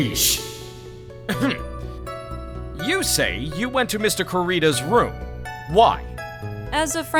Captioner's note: ahem